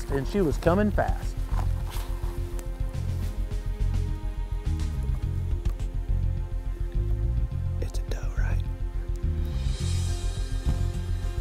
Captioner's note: whispering